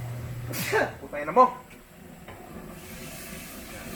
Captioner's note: sneezes